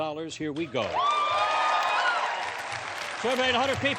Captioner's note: cheering